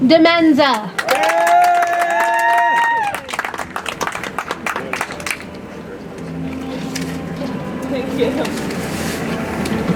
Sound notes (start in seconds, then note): 0.9 audience applauds; 6.2 soft music